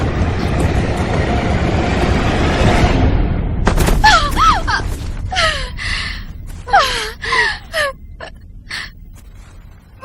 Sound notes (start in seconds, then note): 5.0 groaning